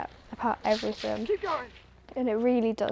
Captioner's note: shouting